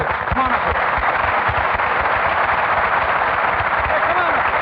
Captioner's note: audience clapping